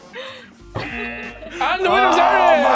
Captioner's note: both laugh; buzzer